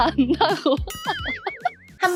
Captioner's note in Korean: 웃음소리